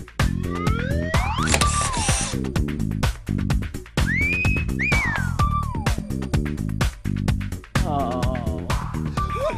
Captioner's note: laughter